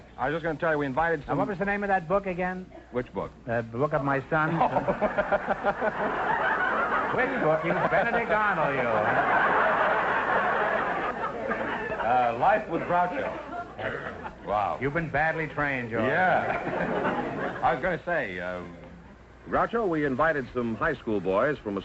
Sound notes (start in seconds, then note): 5.0 laughs; 5.7 audience laughter; 9.1 audience laughter